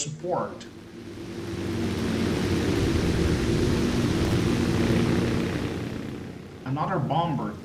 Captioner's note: engines, machine guns, flying sounds